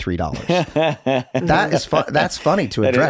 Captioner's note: Glen laughs